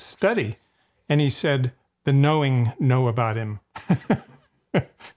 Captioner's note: chuckles